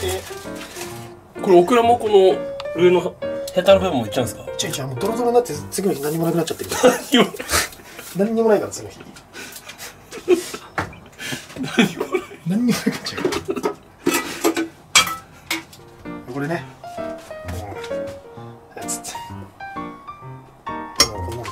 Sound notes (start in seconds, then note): 11.5 laughter